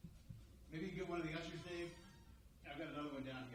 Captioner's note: speaks quietly